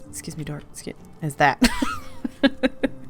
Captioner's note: laughs